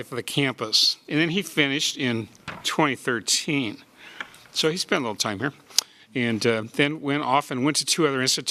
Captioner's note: with sarcasm